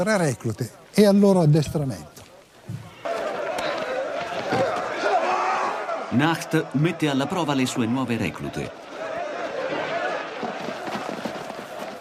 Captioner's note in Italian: Applauso